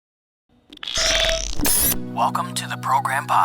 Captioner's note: static crackling